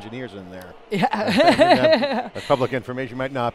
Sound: laughs

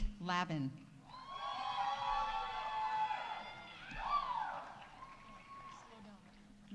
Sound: audience cheering; audience applauding

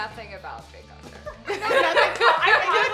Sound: laughing

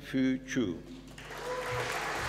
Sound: applause

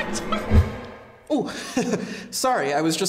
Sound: chuckles

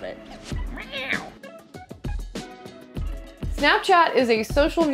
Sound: Katie meows

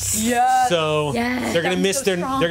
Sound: overlapping chatter

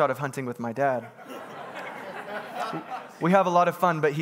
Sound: congregants laughing

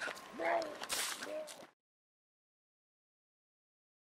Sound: Darnell retching

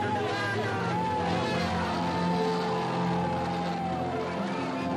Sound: cheers

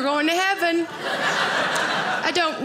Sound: audience laughing

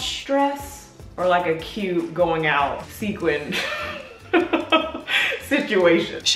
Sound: laughs

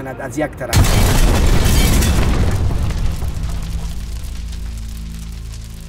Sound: tense music; thunderous explosion

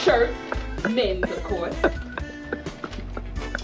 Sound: laughs

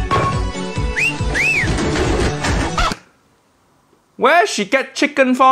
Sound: whistling

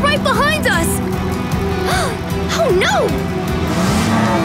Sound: gasping

